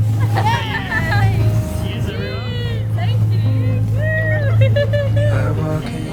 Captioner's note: laughs